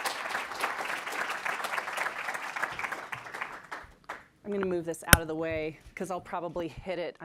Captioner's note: clapping